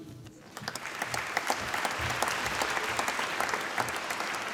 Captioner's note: applause